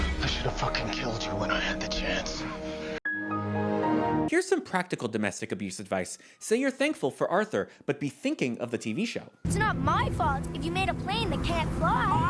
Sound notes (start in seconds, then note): 2.9 Windows XP Shutdown sound